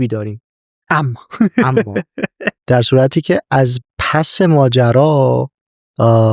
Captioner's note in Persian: خنده